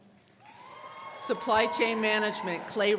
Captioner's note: crowd cheering